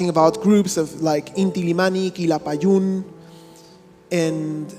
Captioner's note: speaking in a foreign language